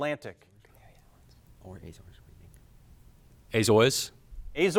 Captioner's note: group whispering